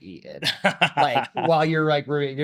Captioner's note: laughing